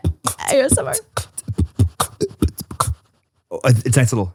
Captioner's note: beatboxes